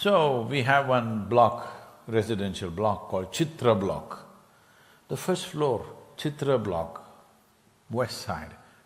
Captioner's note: laughter